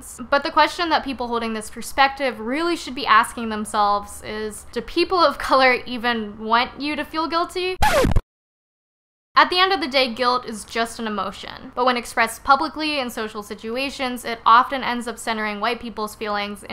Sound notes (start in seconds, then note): 7.8 record scratch sound effect